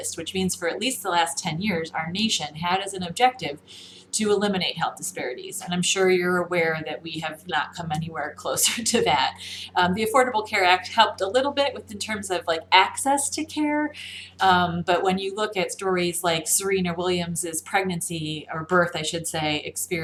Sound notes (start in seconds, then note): 8.7 laughs uncomfortably